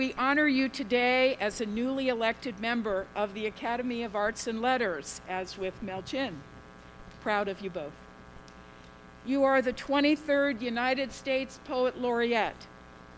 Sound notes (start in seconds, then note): none